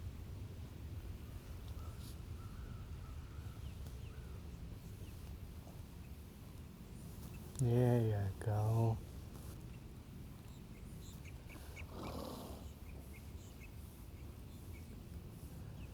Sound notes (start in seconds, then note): 11.8 horse chuffing